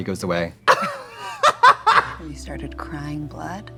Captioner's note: Trixie laughing